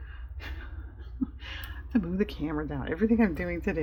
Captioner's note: laughs